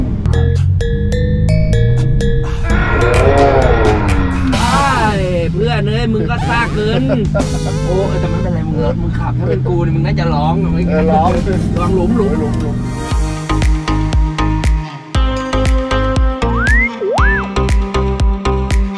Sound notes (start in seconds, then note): 6.4 laughs; 11.2 uplifting music playing; 18.7 uplifting music continues